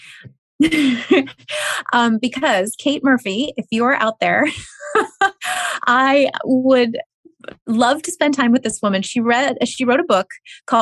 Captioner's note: chuckles